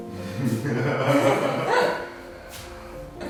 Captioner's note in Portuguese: risos